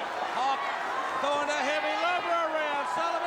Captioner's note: crowd cheering